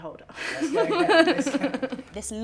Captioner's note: Molly-Mae laughs